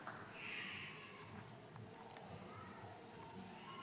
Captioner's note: baby crying